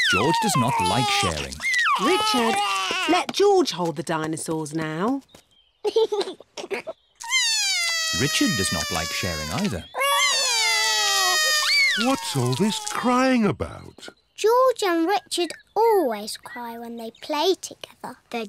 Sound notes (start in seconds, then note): 5.8 giggles; 7.2 cries; 10.5 both cry